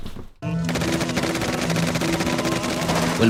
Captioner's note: gunshots